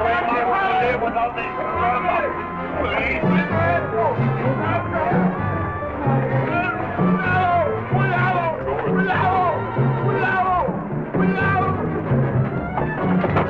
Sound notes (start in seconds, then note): 0.0 men speaking in Spanish; 3.2 General Tostada speaking in Spanish